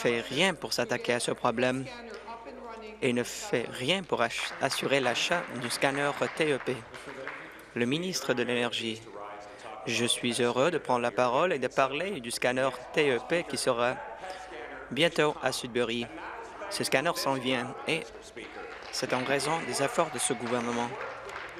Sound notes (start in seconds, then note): 8.5 applause